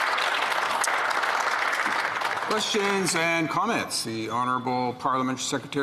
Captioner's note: some Applause